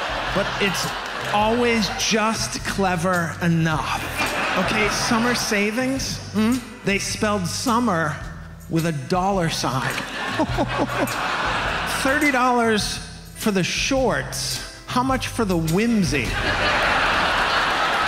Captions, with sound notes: But it's always just clever enough. Okay, summer savings, hmm? They spelled "summer" with a dollar sign. -(FEIGNS LAUGHTER) -(AUDIENCE LAUGHS) Thirty dollars for the shorts, how much for the whimsy? (AUDIENCE LAUGHS)